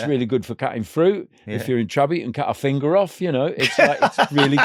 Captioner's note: laughing